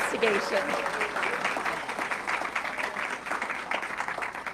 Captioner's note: audience clapping